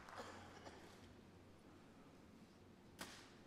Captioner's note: applause